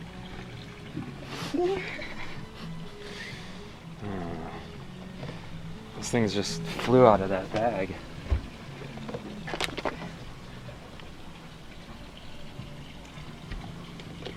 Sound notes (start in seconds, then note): 1.3 laughing; 3.9 groaning